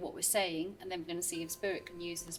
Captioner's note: device beeps